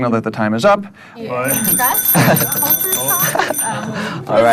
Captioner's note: ring....ring